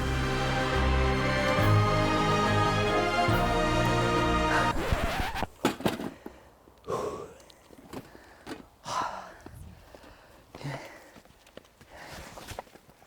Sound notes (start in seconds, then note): 0.0 majestic music; 4.6 record scratching